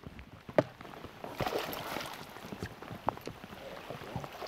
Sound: splashes

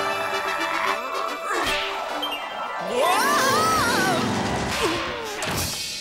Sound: applause

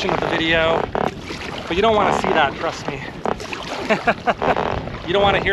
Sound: laughter

